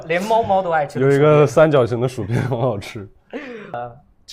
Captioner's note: laughs